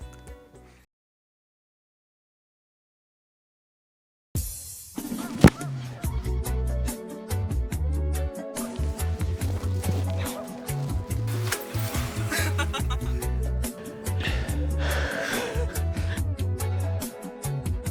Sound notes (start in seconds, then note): 12.2 laughing; 13.8 panting